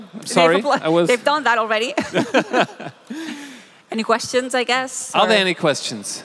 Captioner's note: laughing